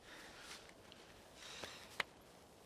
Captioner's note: none